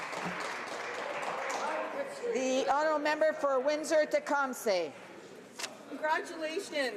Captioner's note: some Applause